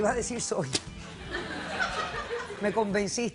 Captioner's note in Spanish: risas